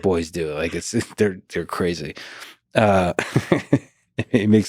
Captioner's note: laughs